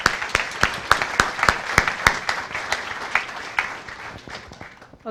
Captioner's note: applause